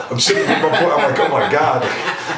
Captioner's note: laughing